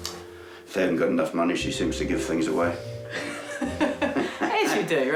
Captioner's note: laughs